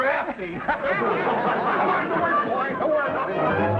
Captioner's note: audience laughing; light orchestral music